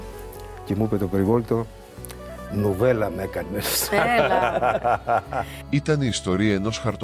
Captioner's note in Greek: γέλια